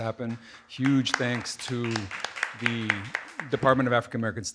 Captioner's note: audience applauding